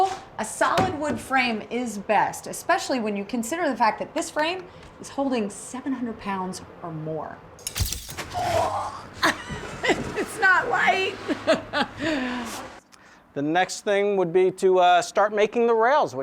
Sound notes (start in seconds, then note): 8.3 grunting; 11.2 chuckling